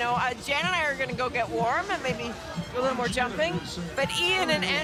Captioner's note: laughter